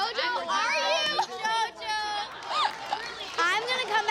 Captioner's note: laughter